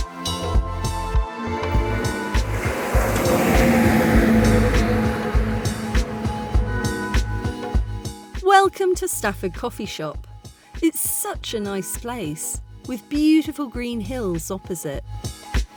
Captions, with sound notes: [loud lorry] [chill music] Welcome to Stafford Coffee Shop. It's such a nice place with beautiful green hills opposite.